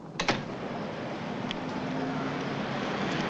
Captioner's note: door thuds shut; van rumbling